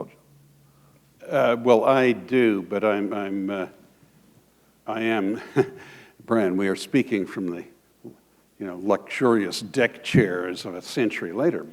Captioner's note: chuckle